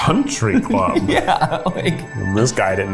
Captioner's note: laughs